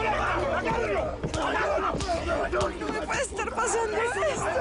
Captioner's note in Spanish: Golpes